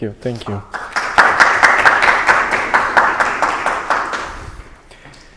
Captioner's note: applause